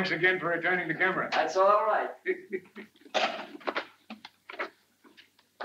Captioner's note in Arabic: يضحك